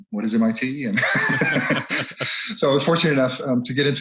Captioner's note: laughs